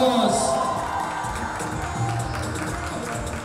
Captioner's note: crowd cheering